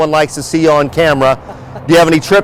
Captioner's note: laughs